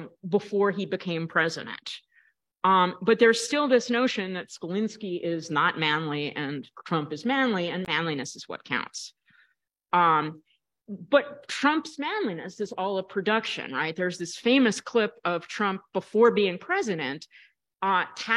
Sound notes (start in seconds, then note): none